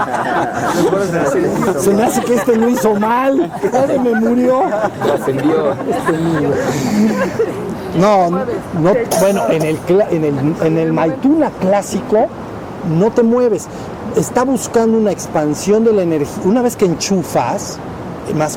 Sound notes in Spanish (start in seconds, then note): 4.7 Risas; 8.8 Risas